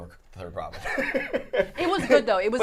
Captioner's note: laughing